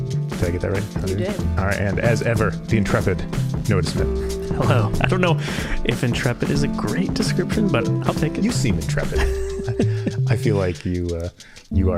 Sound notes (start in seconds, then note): 4.4 chuckling; 9.1 laughing